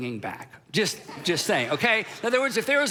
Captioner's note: crowd laughing